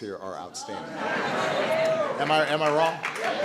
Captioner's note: applause